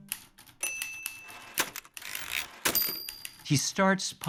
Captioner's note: ding